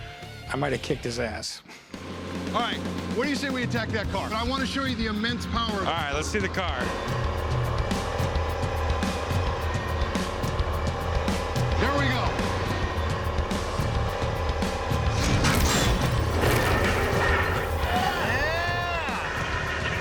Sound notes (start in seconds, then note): 16.5 metal crunching